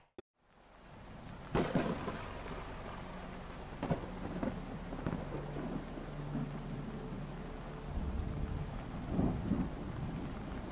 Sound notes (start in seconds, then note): 0.7 rain falls; 1.4 thunder claps